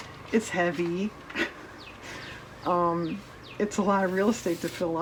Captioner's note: laughs